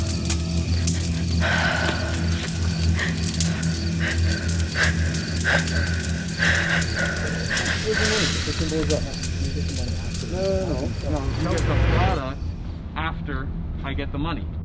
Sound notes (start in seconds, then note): 0.3 heavy breathing